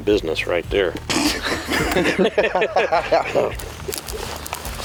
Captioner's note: laughing